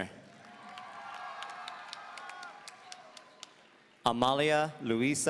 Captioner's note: audience cheering